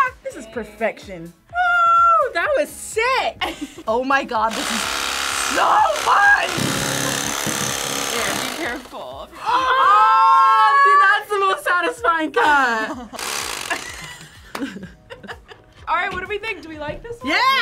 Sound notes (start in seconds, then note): 12.1 React laughs; 13.1 chainsaw revs